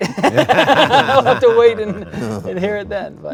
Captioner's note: everyone laughs